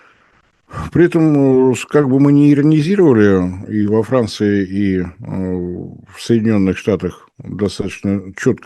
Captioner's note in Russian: фыркает